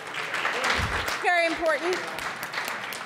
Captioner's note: audience applauds